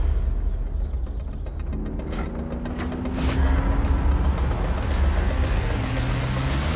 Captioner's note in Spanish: Motor acelerando